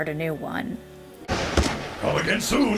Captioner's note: thunder